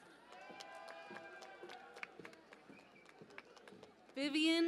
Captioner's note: cheering and Applause